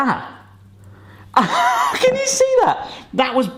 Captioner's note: laughs